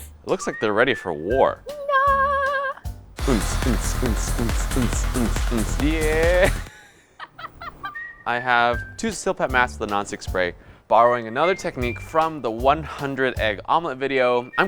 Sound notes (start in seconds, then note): 2.2 vocalizes; 3.2 beat-boxes